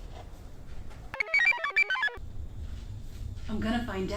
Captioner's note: computer chirps